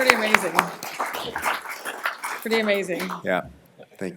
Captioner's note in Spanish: aplausos